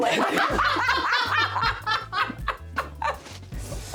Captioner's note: laughing